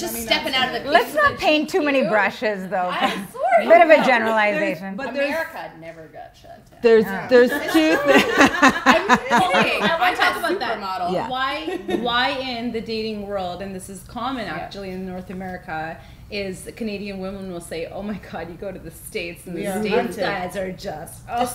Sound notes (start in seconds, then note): 7.6 laughing